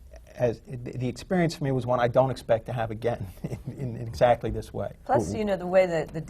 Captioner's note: laughs